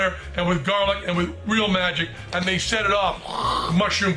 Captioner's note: imitates explosion